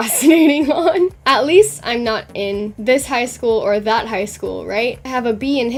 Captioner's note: laughs